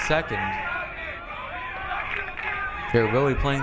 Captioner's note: crowd